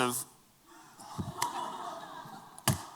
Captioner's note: laughter